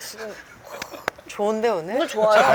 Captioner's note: exclaims